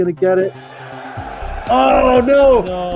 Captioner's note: bell ringing